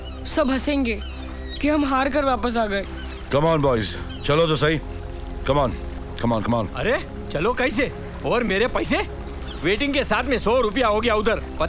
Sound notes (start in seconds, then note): none